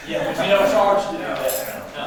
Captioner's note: attendees chuckling